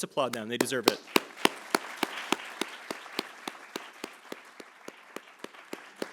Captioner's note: attendees applauding